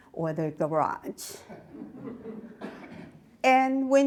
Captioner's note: audience laughs